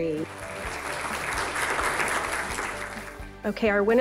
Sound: applause

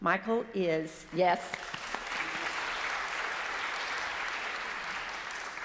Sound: congregation applauds

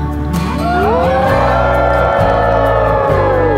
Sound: crowd howls

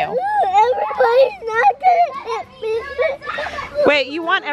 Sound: sobbing

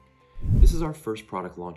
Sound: swoosh

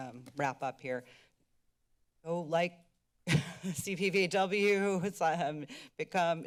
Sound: chuckle

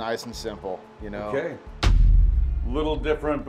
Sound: text thuds

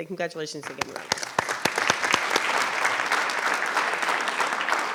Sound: audience applauding

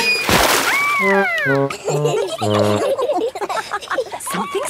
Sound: all laughing

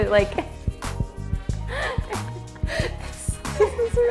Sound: more weird laughter

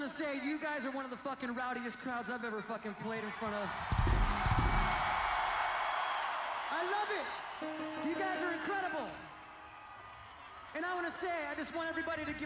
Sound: applause

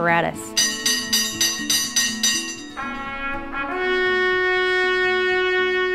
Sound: firehouse bell ringing

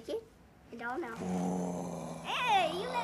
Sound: growls playfully

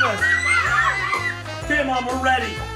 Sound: kids scream

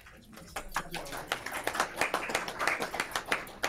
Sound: applauding

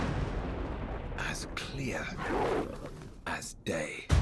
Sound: lion growls

